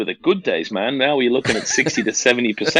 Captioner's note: laughs